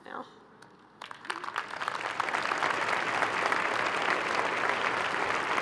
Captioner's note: crowd applauding